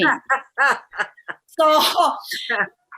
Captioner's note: laughter